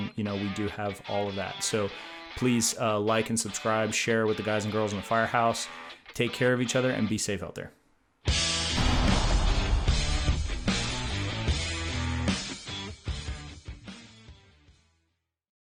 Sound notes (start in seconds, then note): 8.3 upbeat rock music; 8.7 explosion roars; 10.0 upbeat rock music continues